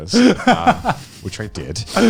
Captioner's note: laughing